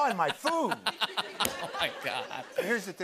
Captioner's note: laughter